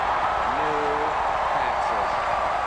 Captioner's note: cheering and applause